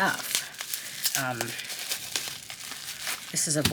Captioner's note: plastic crinkling